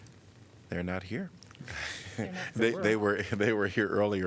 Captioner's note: laughter